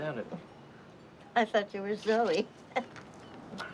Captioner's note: laughs